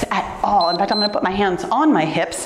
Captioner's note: timer beeps